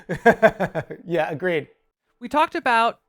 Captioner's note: laughing